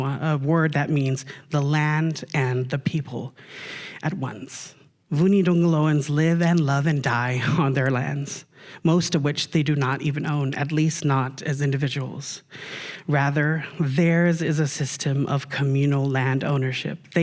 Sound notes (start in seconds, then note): none